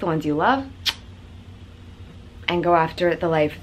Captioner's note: kissing noise